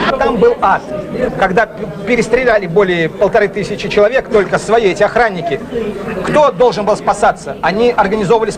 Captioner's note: German